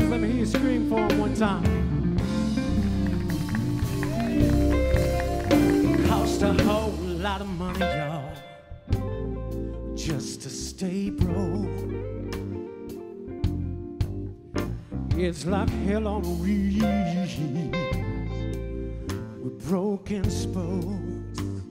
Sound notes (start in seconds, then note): 7.1 applause